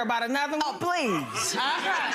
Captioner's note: audience laughs